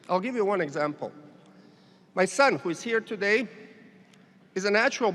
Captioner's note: none